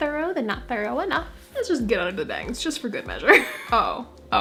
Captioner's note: laugh